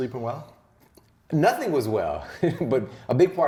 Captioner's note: laughs